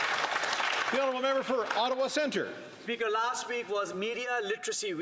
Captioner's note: some Applause